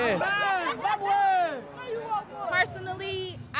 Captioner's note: kid chuckling